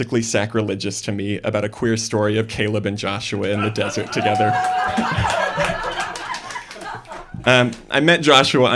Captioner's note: laughter and hooting